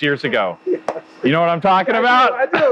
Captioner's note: laughs